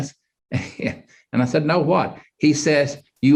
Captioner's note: chuckles